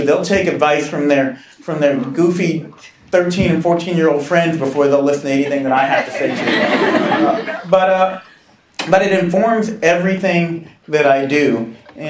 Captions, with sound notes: They'll take advice from their goofy 13 and 14 year old friends before they'll listen to anything that I have to say. (laughing) But it informs everything that I do.